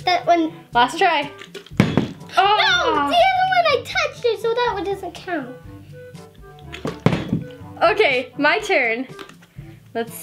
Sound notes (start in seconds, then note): 1.7 bottle landing; 6.7 bottle landing